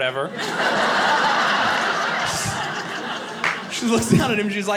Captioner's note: audience laughing